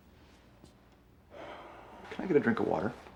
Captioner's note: sighs